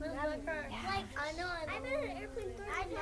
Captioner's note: multiple students talking